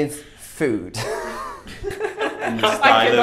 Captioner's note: laughing